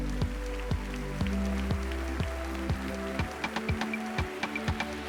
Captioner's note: applause